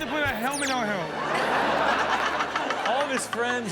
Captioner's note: audience laughs